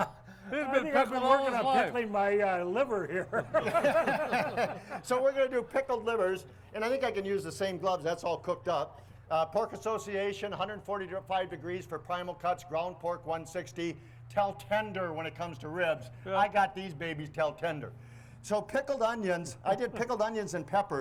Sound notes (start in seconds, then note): 2.8 group laughs; 2.8 laughs